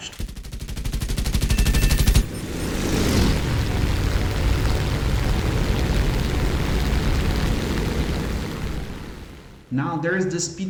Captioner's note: aircraft Engines ,Gunfire, Flying Sounds